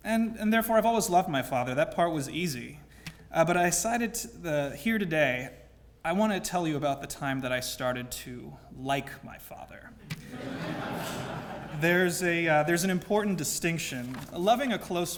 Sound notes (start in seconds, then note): 10.1 laugh